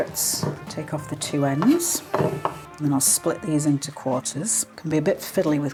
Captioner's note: chop chop chop